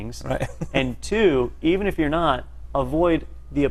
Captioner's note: laugh